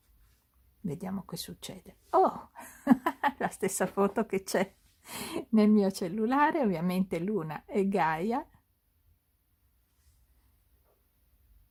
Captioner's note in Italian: risate